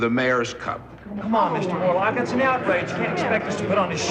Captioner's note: annoyed uttering